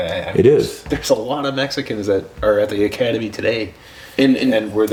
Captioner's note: laughs